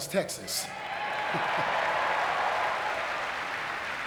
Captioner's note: audience cheering